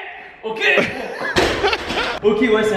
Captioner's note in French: rire